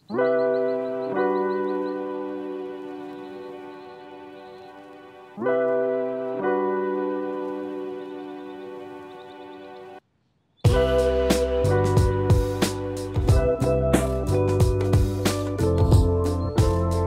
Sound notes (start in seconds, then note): 0.2 warm, upbeat, Introduction music plays; 2.1 sounds of birds in the distance